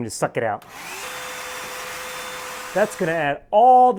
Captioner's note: vacuum buzzing